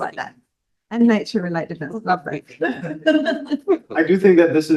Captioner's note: laughs